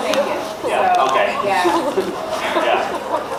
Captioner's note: laughs